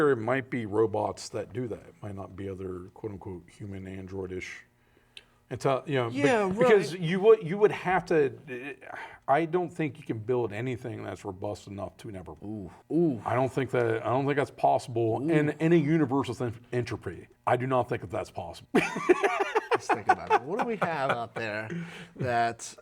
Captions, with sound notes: Ooh, I don't think that's possible in any universal entropy. I do not think that that's possible. (Laughing) Just think about it. What do we have up there that doesn't. There's literally a possibility of proton decay. That protons themselves could decay. Yeah, that's cool. Takes a long time.